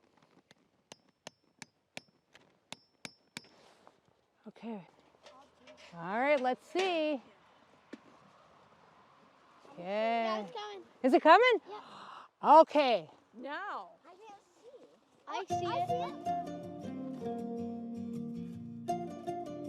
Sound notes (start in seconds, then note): 4.1 hammer gently clanking